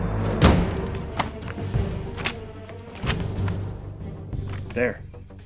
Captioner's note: dramatic music continues; pages rustling